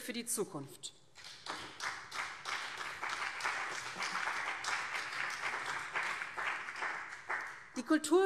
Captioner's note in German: Beifall BÜNDNIS 90/DIE GRÜNEN